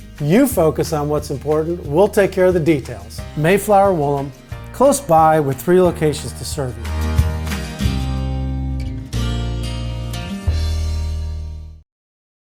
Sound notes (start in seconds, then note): 3.5 voiceover; 7.0 upbeat music